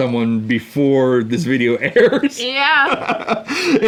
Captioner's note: laughs